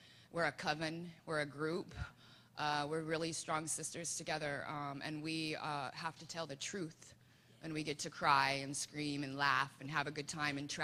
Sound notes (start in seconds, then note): none